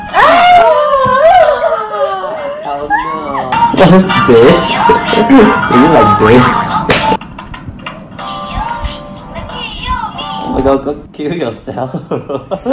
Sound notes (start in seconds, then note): 6.8 slap